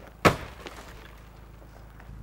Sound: thud

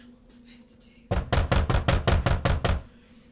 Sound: loud knocking

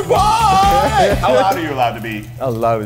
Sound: chuckles

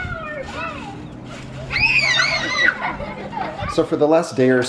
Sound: kids screaming

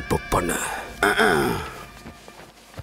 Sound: clears throat

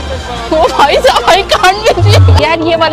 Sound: chattering

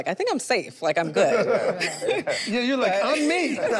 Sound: group laughs

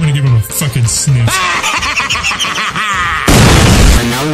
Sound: laughing

